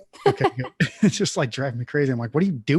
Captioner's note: laughs